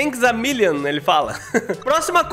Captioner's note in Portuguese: risos